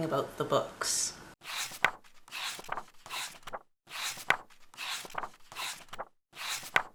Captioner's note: pages turning